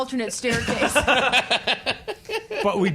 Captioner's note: laughing